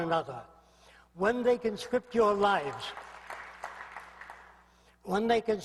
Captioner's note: applause